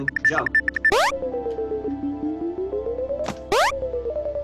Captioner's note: comic boing; switch beeping